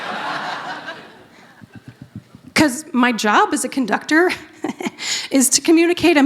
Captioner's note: laughter